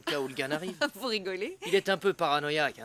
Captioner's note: laughter